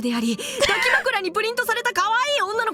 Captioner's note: chuckles